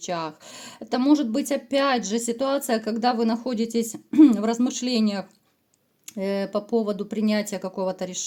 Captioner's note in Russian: откашливается